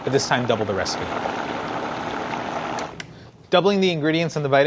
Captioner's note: blender whirring